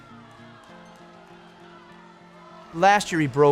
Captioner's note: crowd cheers